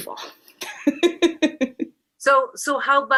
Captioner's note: laughter